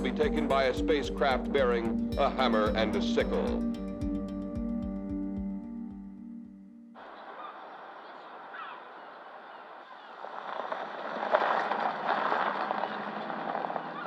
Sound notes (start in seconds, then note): 7.0 seagulls squawking; 9.7 gravel crunching